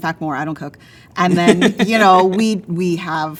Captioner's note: laughs